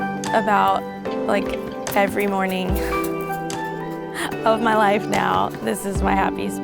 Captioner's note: chuckles